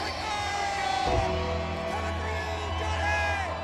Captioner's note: bell tolls